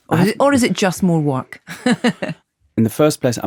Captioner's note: laughs